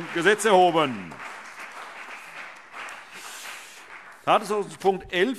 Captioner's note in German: Beifall CDU und BÜNDNIS 90/DIE GRÜNEN